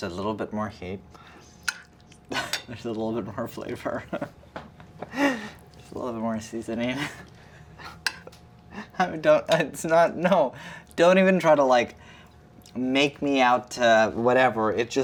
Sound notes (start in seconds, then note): 2.5 laughs